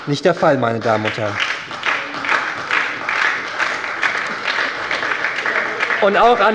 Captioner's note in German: Beifall bei der SPD